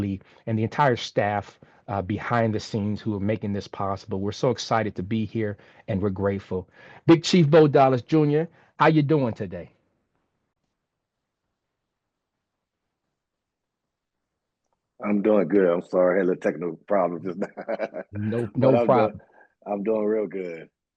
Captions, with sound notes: and the entire staff behind the scenes who are making this possible. We're so excited to be here, and we're grateful. Big Chief Bo Dollis Jr, how you doing today? - I'm doing good. I'm sorry I had a little technical problem just now. [chuckle] - No problem. - I'm doing real good.